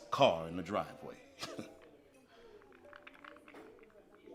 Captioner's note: chuckles